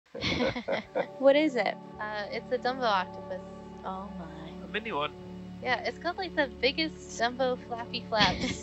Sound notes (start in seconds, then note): 0.2 man and woman laughing; 8.1 lady 1 laughing